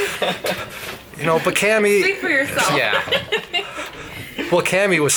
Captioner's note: laughing; laughs